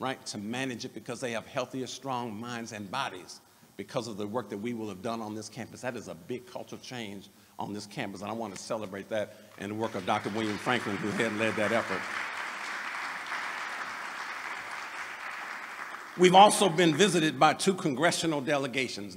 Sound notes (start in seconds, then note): 13.2 applause